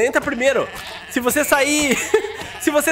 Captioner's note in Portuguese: risos